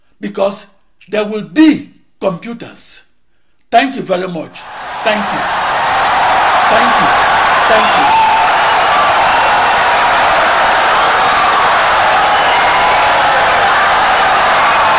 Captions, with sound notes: because they will BE computers. [Wild applause and cheering for 17 seconds]